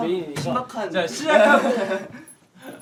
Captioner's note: laughing